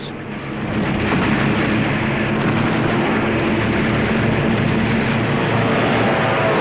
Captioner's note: heavy gun fire